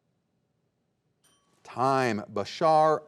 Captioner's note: bell ringing